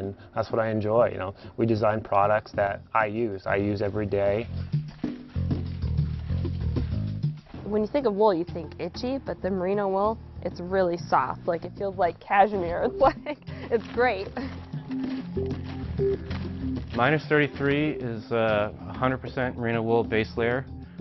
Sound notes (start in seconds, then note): 12.6 laughing